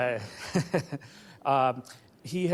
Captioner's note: chuckles